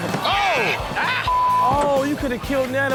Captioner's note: Chanel laughs; audience groans